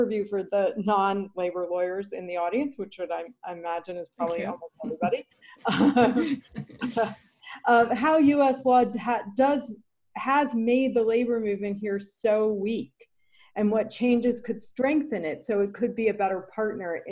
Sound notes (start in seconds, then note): 5.6 chuckling